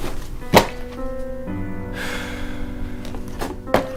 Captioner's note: exhales sharply